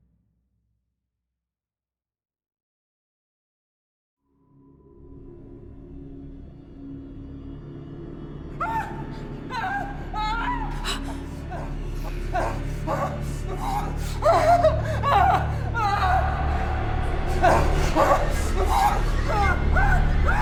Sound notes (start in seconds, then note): 5.1 ominous orchestral music; 9.5 Chris screaming; 10.9 Robin gasps; 12.5 Chris screams; 17.4 Chris screams